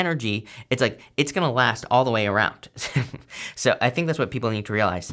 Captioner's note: chuckles